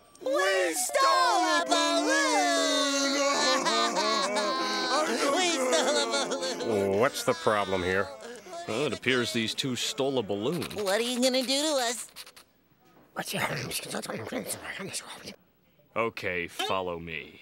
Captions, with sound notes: - We stole a balloon! - We stole a balloon! [crying] We stole a balloon. What's the problem here? Well it appears these two stole a balloon. What are you going to do to us? [whispering] OK, follow me.